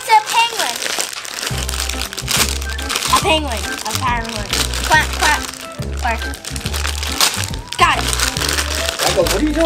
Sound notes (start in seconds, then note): 4.2 penguin noises